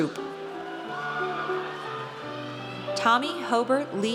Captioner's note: audience cheers